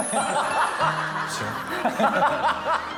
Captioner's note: in a low voice